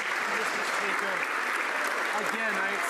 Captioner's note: some Applause